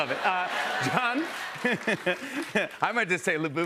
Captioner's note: laughs